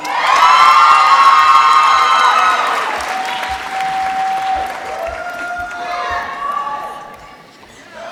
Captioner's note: applause